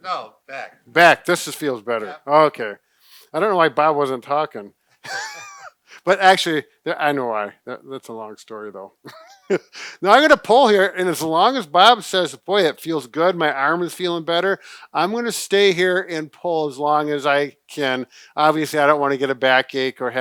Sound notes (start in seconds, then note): 5.0 laughs